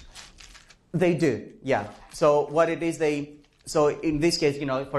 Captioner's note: professor speaking